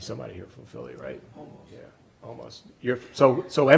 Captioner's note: voiceover